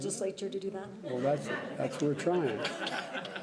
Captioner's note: laughter